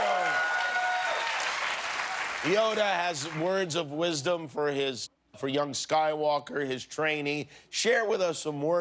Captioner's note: cheers and applause